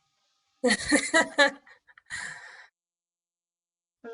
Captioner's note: laughter